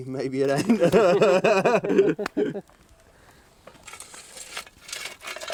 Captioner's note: Phil and Tony laughing